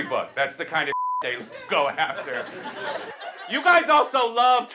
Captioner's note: beep